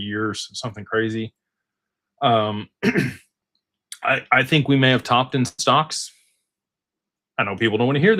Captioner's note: clears throat